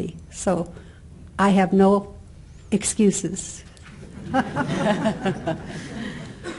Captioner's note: laughing